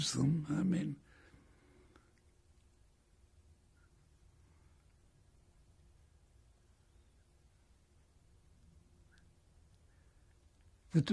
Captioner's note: pauses for 7 seconds